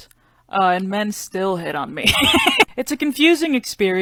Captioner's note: laughs